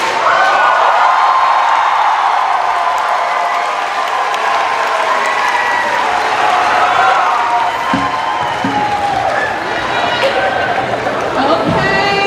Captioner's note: cheers and applause